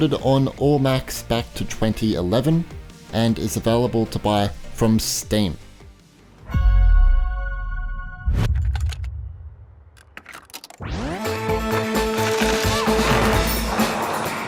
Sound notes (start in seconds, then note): 6.6 bright music; 10.0 cassette tapes clicking; 10.8 upbeat music